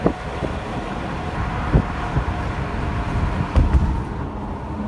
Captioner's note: engine purring